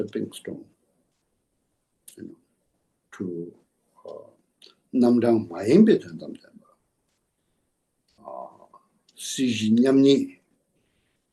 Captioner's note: tibetan